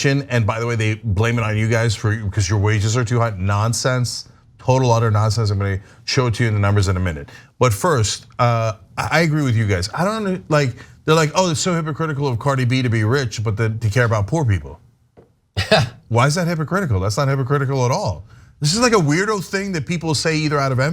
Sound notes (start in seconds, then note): 15.4 laugh